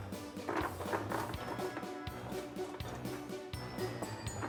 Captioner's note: beans splattering